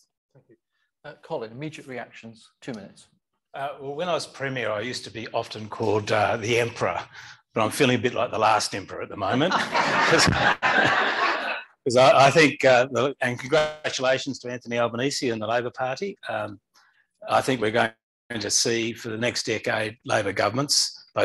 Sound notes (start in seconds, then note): 9.4 laughter